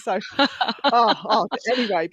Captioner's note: laughter